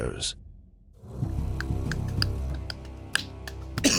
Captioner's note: group clapping